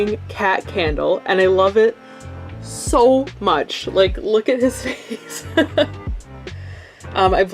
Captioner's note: laughs